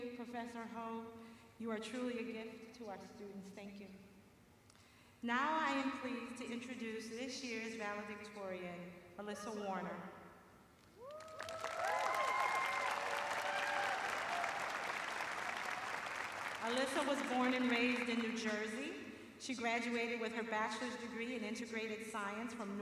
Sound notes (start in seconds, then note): 8.2 cheers and applause